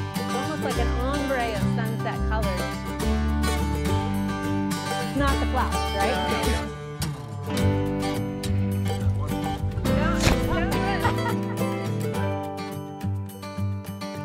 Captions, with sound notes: Almost like an ombre of sunset color. (lively guitar music) It's not the flowers, right? (group chattering)